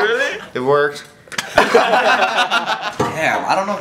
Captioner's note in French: Rires